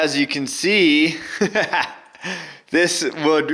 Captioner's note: laughter